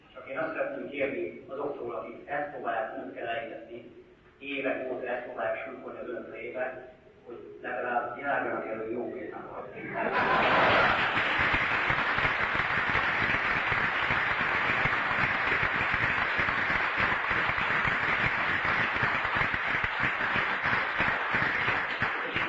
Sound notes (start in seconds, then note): 9.8 laughter, applause